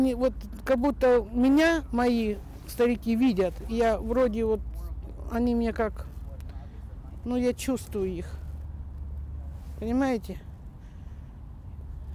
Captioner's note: speaking Foreign Language